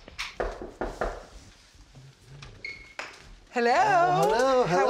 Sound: knocking

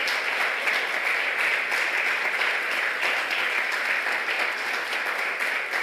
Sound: applause

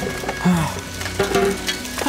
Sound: sigh

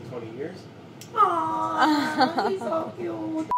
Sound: laughing

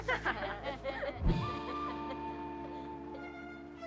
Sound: laughing

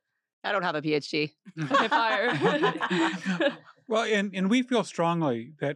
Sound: laugh

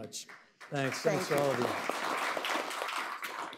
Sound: applause

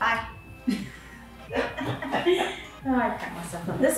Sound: laughing

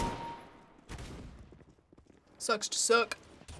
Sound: distant gunfire; kill chime; firing

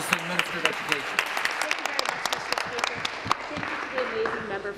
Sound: applause

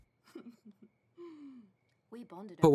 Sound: Kym laughs

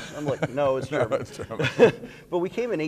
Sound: laughing

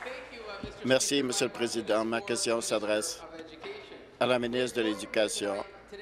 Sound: applause

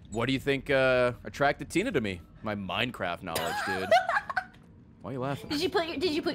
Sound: laughs

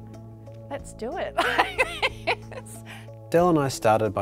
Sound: laughter

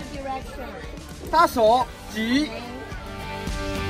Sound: man speaks in Chinese; speaks Chinese; upbeat music continues

